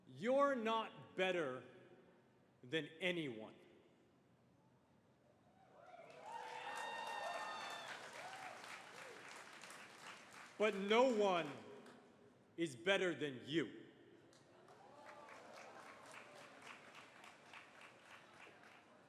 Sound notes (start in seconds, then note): 5.7 cheers and applause; 14.3 applause